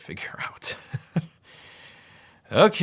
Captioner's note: laughs lightly